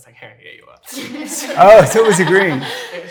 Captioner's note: audience laughs